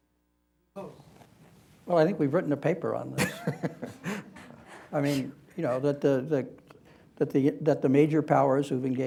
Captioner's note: laughter